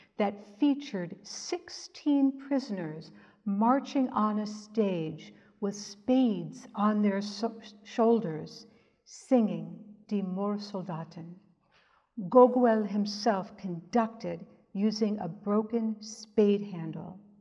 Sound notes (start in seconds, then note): 10.0 speaks in German